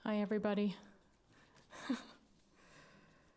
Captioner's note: laughter